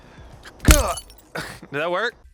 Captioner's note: glass shattering; grunt